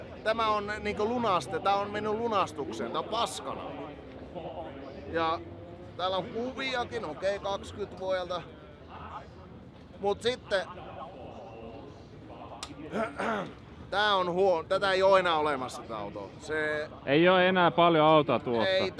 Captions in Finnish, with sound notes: tämä on niinku lunastet-, tää on mennyt lunastukseen. Tää on paskana, ja täällä on kuviakin, okei, kakskyt vuodelta. Mut sitten, [rykäisee] tää on huo..., tätä ei oo enää olemassa tää auto. -Se- -Ei oo enää paljon autoa tuosta.